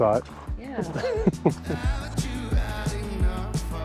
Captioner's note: laughs